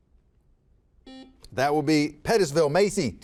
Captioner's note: buzzer buzzes